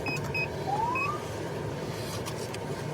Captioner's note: siren chirps